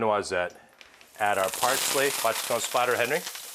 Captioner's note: pan sizzles